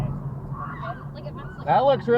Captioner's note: screaming